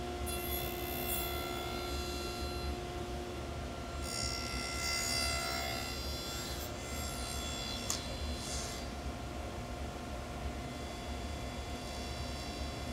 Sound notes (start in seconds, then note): 0.2 saw zings; 4.1 saw zings